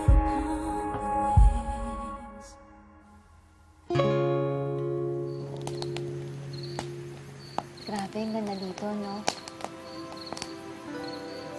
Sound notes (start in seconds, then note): 3.8 music fades; 4.6 fire crackling; 9.6 mellow music playing